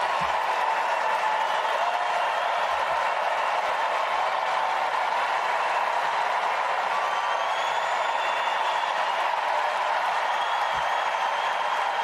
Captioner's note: cheers and applause